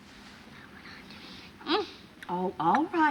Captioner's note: whispering